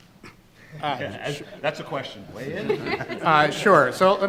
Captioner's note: group laughs